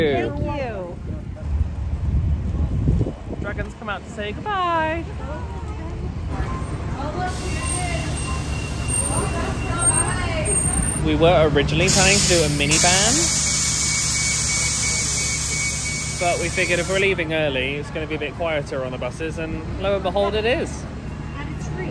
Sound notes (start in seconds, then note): 13.9 bus hydraulics hissing